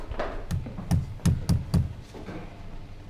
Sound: thuds

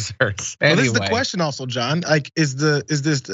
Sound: laugh

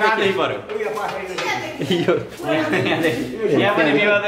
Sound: laughter

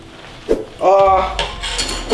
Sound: screen swoosh

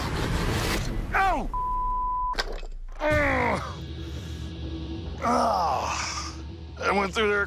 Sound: groans

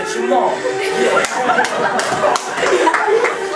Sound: laughter

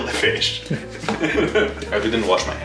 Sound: laughs

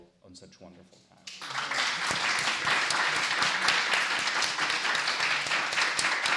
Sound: applause

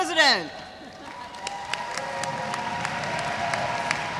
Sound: audience cheers

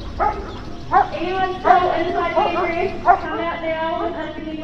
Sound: loudspeaker

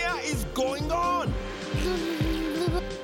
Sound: blows raspberry

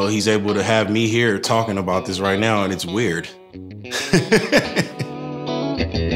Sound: laughs; chill electric guitar music

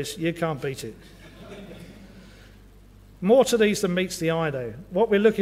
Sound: laugh

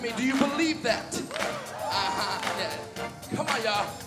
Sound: audience cheers

